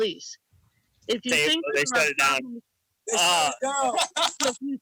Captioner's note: people chatting